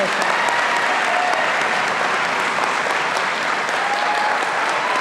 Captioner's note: audience applauding